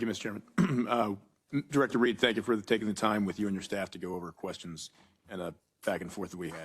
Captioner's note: cough